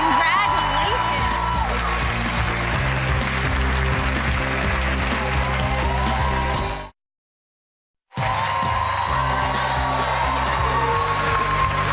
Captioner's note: cheers and applause